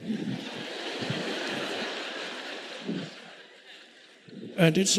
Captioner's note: audience laughing